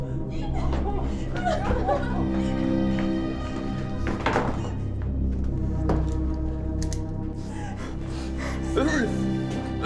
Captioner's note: sobbing; gagging